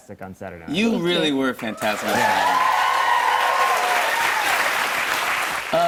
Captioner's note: cheers and applause